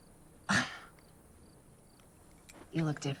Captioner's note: scoffs